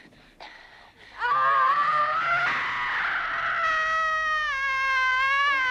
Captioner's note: Hundra screaming